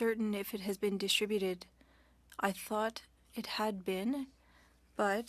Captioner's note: speaking French